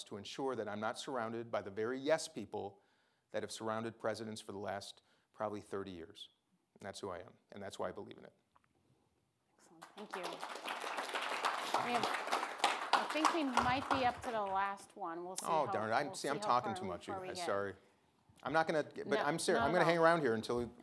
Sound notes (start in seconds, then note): 9.8 audience applauding